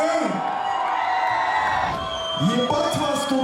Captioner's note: crowd cheers